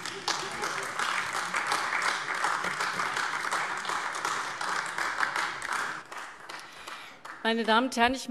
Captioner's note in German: Beifall AfD